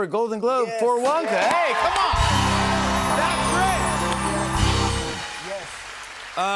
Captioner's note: cheers and applause